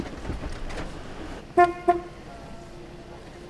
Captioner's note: horn honks